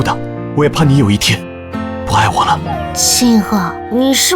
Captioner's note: terrified